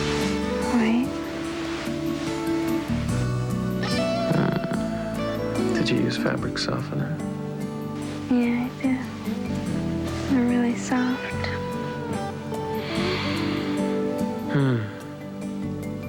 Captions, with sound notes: WHITE. DID YOU USE FABRIC SOFTENER? YEAH, I DID. THEY'R ST. [INHALES] HMM.